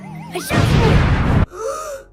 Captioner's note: boom; gasp and super weird eye thing